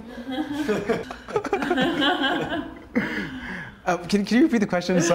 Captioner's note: everyone laughs